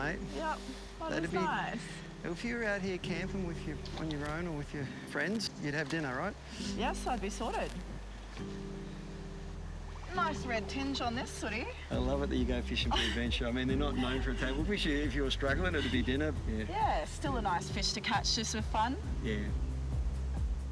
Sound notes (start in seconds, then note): 2.9 water bubbles; 9.7 peaceful instrumental music